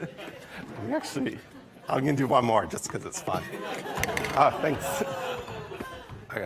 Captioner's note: laughter